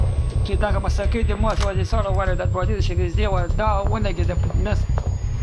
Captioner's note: gun firing; speaking foreign language